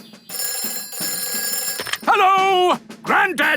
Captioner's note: telephone ringing